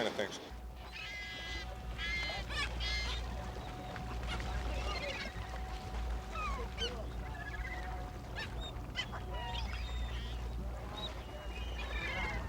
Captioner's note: seagulls